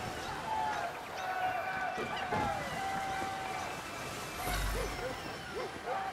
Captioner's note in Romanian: Aplauze